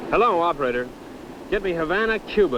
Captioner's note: none